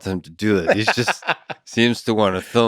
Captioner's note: Tim laughs